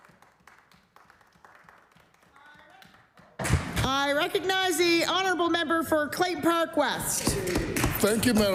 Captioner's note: applause